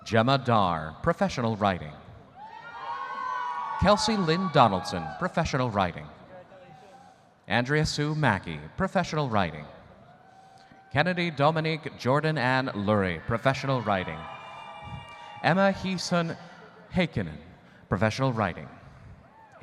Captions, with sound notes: Gemma Darr, Professional Writing. (audience cheering) Kelsie Lynn Donaldson, Professional Writing. Andrea Sue Mackey, Professional Writing. Kennedi Dominique Jourdin-Ann Lurry, Professional Writing. Emma Huson Heikkinen, Professional Writing.